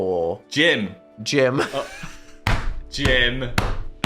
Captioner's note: laughs